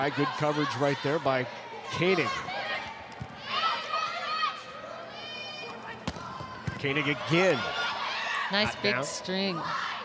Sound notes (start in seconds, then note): 2.6 players shouting indistinctly; 6.0 ball thumping